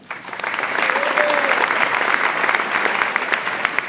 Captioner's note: audience applauds